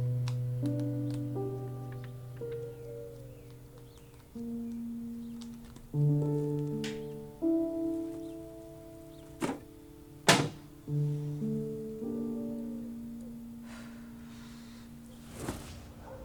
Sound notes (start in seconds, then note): 0.6 pages flipping; 6.2 birds chirping; 6.2 sentimental music; 9.3 book thudding; 10.2 cabinet clicking shut; 12.6 sentimental music; 13.6 Diane sighing